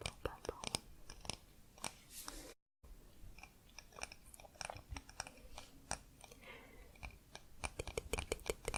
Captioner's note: tapping on stone